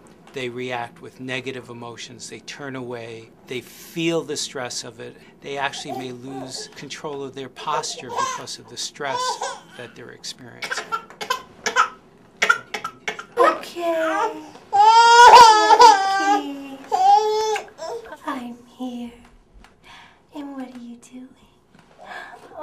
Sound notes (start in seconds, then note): 11.1 baby crying